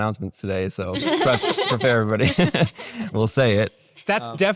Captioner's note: chuckles